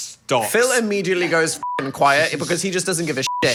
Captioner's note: beep